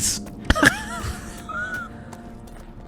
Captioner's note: cannibalistic Laughter